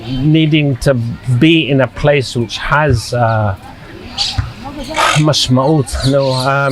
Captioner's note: sighing; hebrew